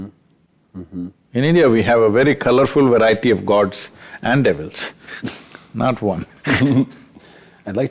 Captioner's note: both Laugh